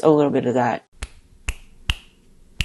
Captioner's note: snap